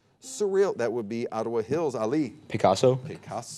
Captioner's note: buzzer beeping